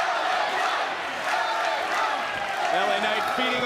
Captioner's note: crowd chants "la knight"